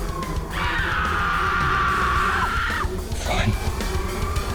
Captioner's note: suspenseful music continues; Ms. Hemlock screaming